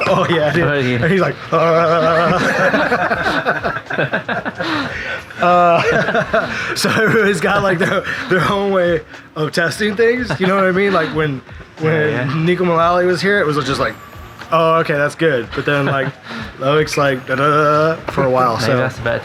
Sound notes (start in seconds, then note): 2.0 head vibrating sound; 2.7 laughing